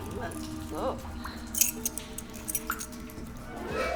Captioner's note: dog tags jingle